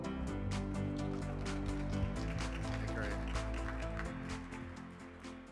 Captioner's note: bright music; crowd applauding